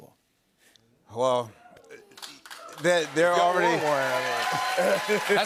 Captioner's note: cheers and applause